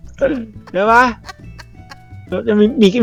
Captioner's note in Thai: หัวเราะ